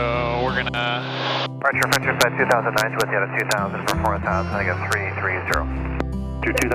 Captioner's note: various speakers speaking over the radio